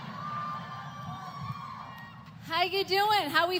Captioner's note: applause